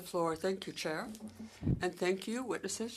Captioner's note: speaking French